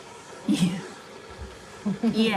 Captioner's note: chuckles